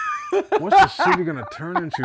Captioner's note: laughing